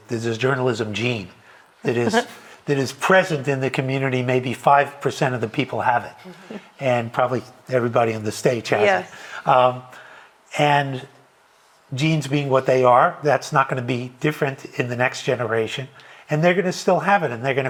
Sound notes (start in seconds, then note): 1.9 laughing